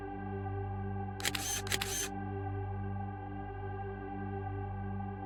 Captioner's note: shutter clicking